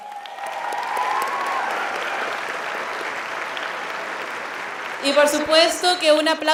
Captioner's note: applauding